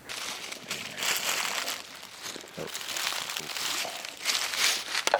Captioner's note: leaves crunching